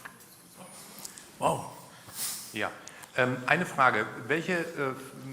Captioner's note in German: schnauben